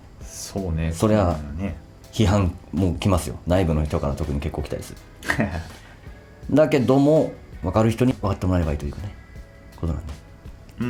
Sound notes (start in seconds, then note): 5.2 laughs